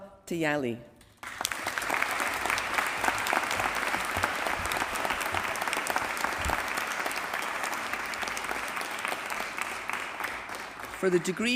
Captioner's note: applause